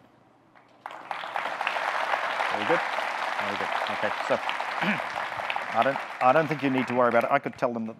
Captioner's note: audience clapping